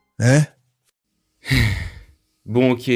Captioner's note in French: soupir